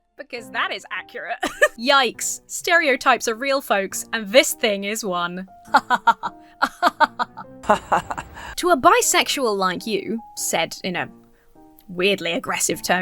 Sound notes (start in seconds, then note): 1.4 laughs; 6.6 person laughing; 6.6 laughs sarcastically